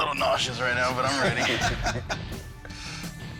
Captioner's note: laughter